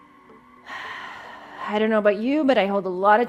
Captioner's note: exhales